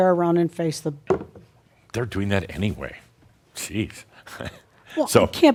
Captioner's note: chuckles